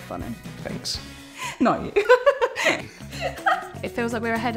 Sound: laughs

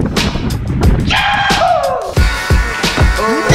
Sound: yelling

